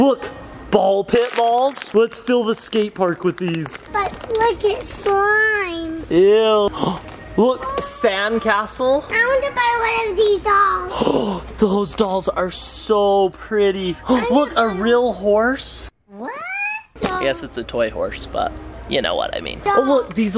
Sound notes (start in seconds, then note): 11.8 gasp